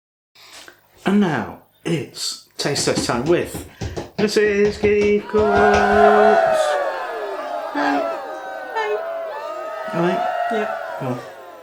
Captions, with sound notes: And now it's taste test time with Mrs Keef Cooks! [ CROWD GOES WILD ]